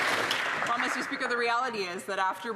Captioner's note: some Applause